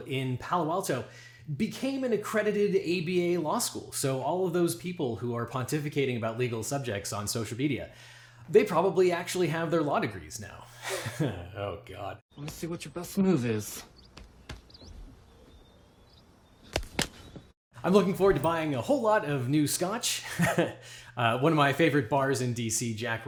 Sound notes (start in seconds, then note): 11.4 laughs; 16.7 slapping; 20.2 chuckles